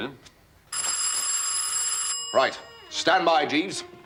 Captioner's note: doorbell rings